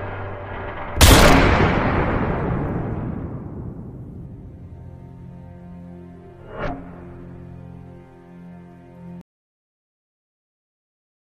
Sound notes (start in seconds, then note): 0.9 gun fires; 5.6 somber music